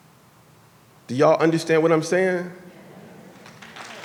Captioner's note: applause